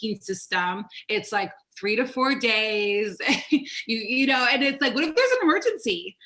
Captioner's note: laughs